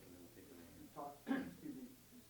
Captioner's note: coughs